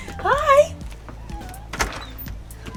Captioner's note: cat meows